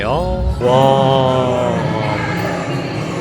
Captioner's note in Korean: 와아아아아